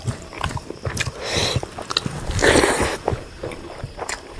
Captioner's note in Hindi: नाक से की जाने वाली आवाज़